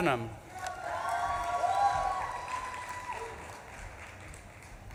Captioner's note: audience claps and cheers